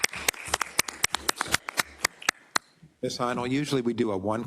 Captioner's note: applause